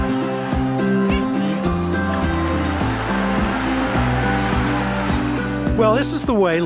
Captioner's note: crowd Conversation